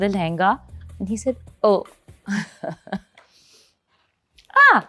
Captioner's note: chuckles